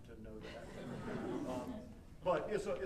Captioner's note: audience chuckling